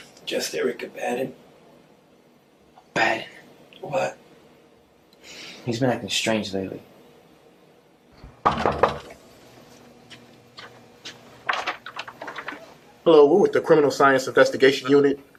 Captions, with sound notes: Just Eric. Abaddon. Bad. What? He's been acting strange lately. (knocking at door) Hello. We're with the Criminal Science Investigation Unit.